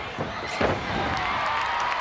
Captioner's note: drums beating; bodies slamming; crowd applauds